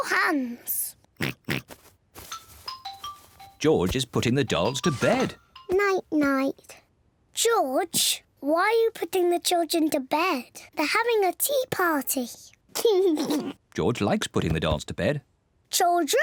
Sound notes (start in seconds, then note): 1.2 oinks; 12.8 laughs